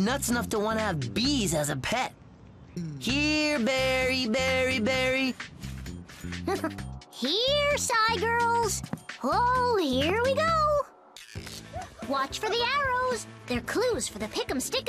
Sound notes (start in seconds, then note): 6.4 chuckles